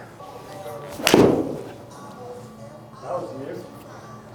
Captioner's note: thumping sound